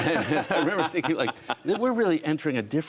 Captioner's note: laughter